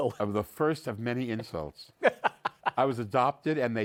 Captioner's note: laughs